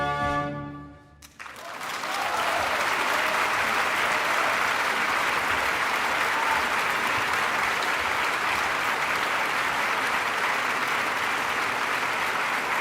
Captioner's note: applause